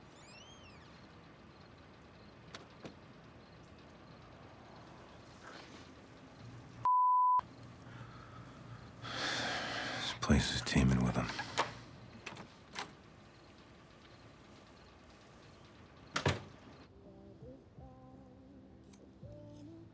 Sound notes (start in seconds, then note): 0.0 door creaking; 7.9 sighs; 11.3 lock clattering; 16.1 door shutting; 17.0 soft rock music